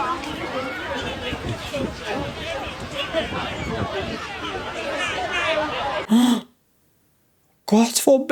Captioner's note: gasping